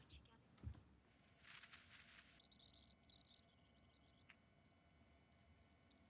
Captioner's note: rewind squeals